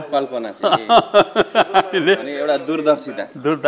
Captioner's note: laughter